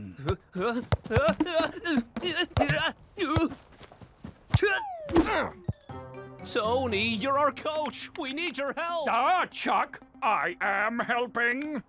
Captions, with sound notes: - Ah, ah, ah! (grunting) Tony, you're our coach! We need your help! - Ah, Chuck! I am helping!